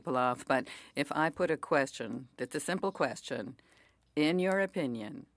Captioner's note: speaking French